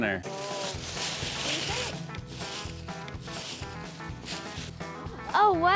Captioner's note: tissue paper rustling